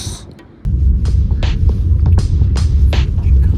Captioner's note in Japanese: 鼻息